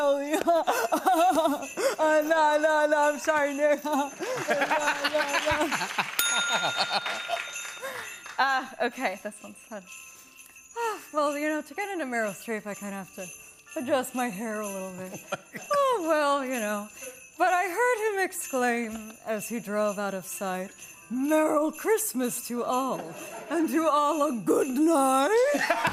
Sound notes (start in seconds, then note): 0.2 laughs; 6.1 bell dings; 7.6 normal voice